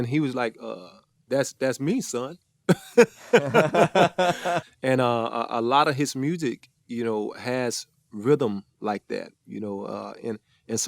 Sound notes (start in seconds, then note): 2.7 all chuckle